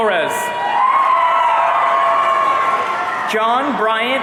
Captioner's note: audience cheering